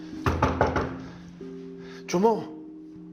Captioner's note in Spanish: Toques en la puerta